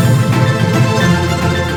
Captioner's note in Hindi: तालियाँ